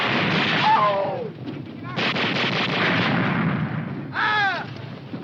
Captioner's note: soldier screaming